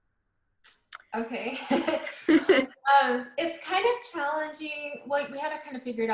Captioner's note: laughs